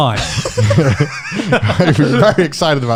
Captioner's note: laughing